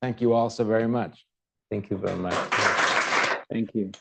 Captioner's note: applause